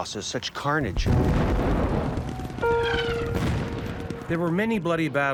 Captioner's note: artillery exploding; somber music